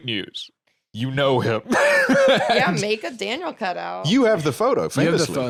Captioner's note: laughs